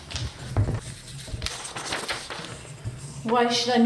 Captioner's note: pencil scratching